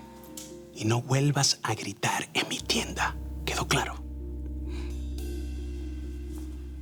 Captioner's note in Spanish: Voz baja